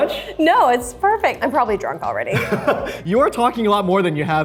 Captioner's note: laughs